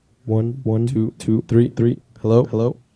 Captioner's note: echoing